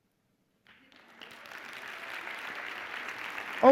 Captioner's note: applause